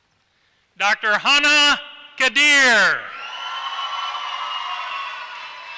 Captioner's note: applause